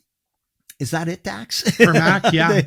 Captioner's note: laughs